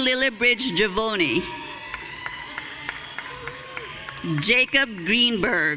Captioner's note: audience cheering